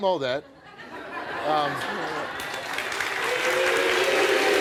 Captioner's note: audience laughing; audience clapping